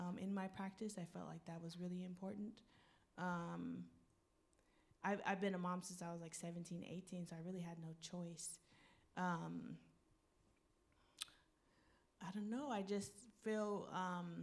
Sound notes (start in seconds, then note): none